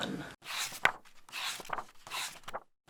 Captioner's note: pages turning